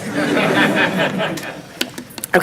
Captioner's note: audience laughing